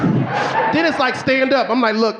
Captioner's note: gasping